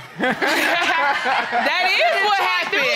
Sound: all laughing

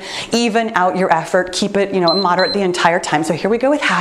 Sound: timer beeps

